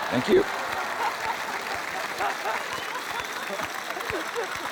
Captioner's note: applause